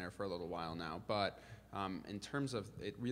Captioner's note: none